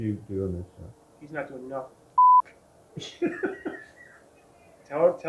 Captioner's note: laughter